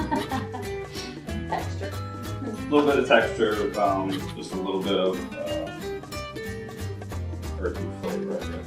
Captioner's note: laughs